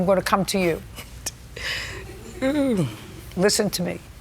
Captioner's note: chuckles